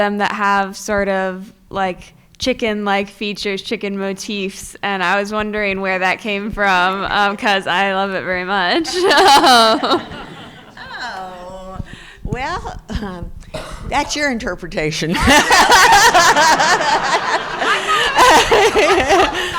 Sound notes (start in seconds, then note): 8.8 chuckles; 15.2 crowd laughing